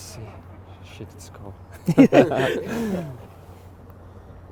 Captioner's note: laughter